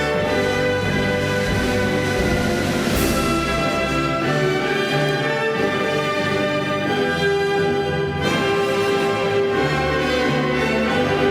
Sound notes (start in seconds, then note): none